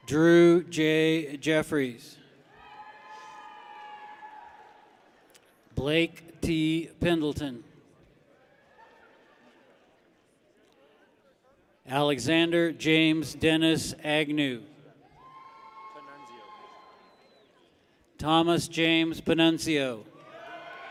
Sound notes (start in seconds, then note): 2.4 people cheer; 8.7 people clap; 15.0 people cheer; 20.1 people cheer